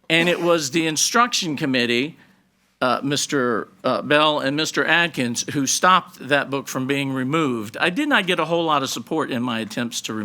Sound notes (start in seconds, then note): none